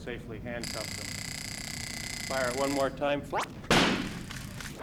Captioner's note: taser noise; impact